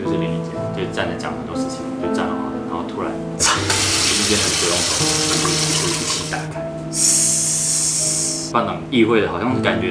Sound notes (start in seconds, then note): 3.4 splashing